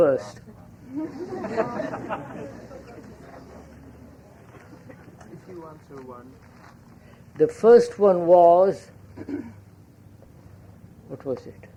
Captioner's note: laughter